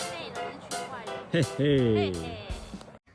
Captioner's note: mysterious laughter